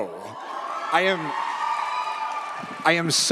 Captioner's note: audience cheers